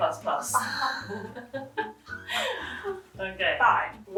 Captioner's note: both laughing